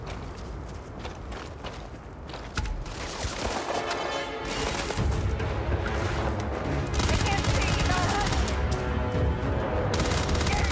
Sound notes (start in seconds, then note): 3.6 action music playing; 7.0 enemies yelling